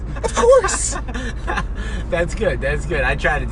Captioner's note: laughing